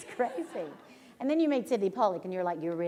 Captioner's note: laughter